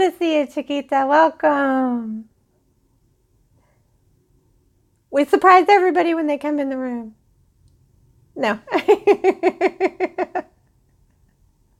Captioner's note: laughing